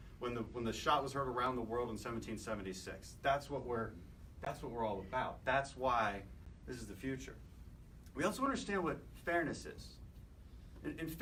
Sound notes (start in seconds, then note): none